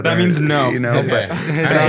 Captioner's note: group laughing